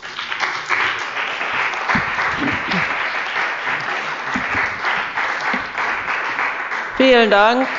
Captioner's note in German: Beifall bei dem BÜNDNIS 90/DIE GRÜNEN und bei Abgeordneten der CDU